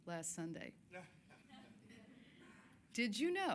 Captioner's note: scattered chuckling